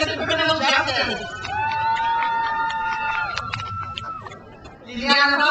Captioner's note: crowd cheers